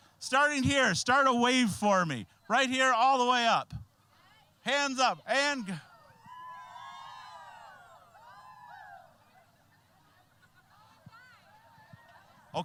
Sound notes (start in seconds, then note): 6.2 all cheering